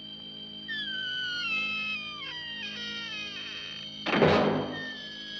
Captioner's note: doors creaking and slamming shut